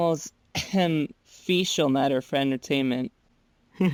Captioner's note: clears throat